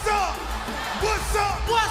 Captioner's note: crowd cheering